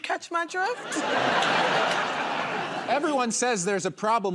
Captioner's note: laughter